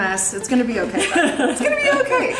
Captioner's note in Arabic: يضحك